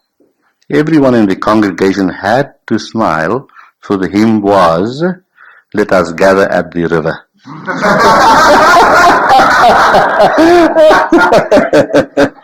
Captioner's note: laughs